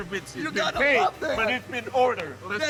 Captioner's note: laughing